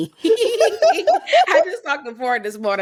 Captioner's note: laughing